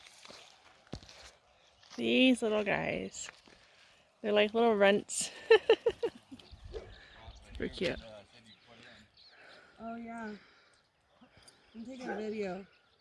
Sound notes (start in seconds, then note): 5.3 laughs